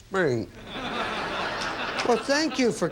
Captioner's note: audience laughing